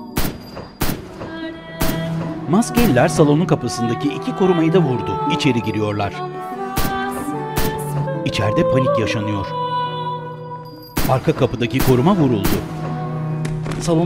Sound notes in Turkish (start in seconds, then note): 0.1 Silah sesleri; 6.8 Silah sesleri; 11.0 Silah sesleri